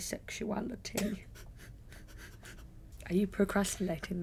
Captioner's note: laughs